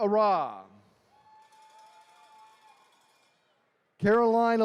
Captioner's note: attendees cheering